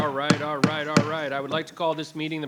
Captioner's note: gavel bangs